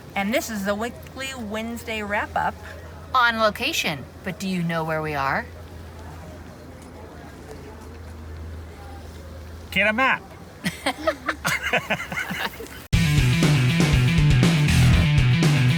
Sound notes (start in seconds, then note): 10.6 all laugh; 12.9 upbeat music